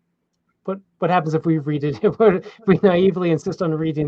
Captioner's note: chuckles